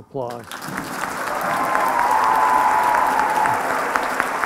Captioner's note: applause and cheering